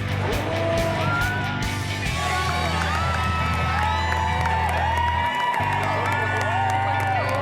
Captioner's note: cheering